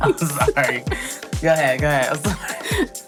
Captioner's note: laughter